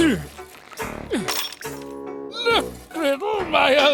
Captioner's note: grunting